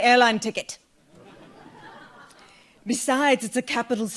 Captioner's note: audience laughs